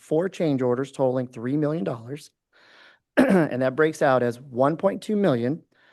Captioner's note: clears throat